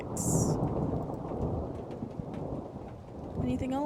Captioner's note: thunder Rumbling